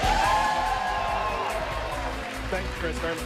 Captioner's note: cheers and applause